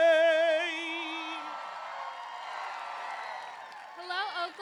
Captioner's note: applause